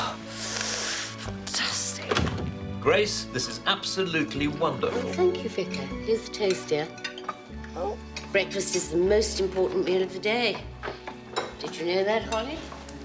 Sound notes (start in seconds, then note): none